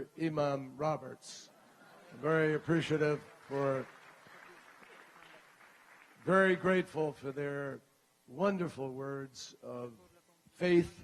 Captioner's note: laughter